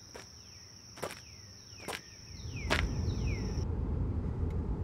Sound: dirt crunching; birds chirping; engine rumbling quietly

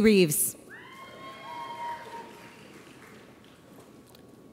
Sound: audience cheers

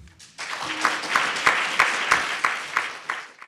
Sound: audience applauds

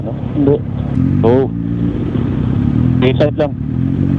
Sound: distorted audio

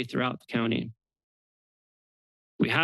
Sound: pause

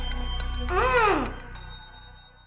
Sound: Janet moans

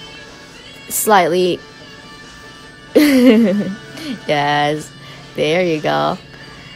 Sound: laughs

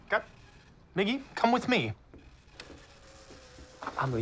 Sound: whirring, clicking continue

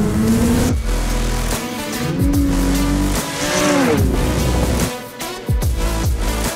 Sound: snowmobile engine revving

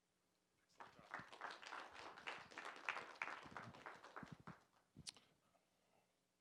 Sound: applause

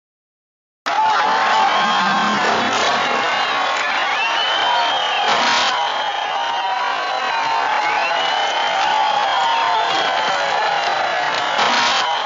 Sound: laughter and applause

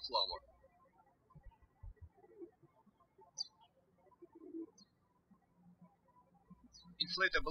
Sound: birds chirping

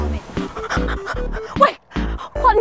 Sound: terrified

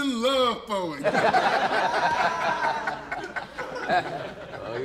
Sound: laughter

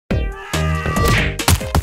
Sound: intense screaming

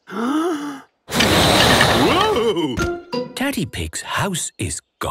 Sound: inhaling deeply; blowing

